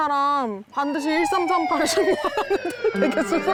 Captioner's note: siren sound